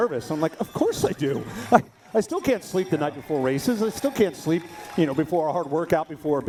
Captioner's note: laughter